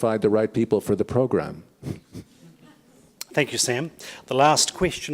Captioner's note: chuckles